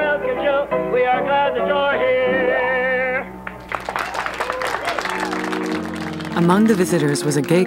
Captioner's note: audience applauding